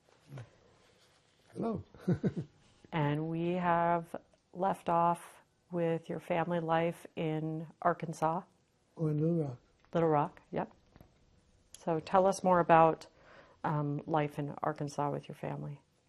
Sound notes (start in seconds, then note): 2.0 laughing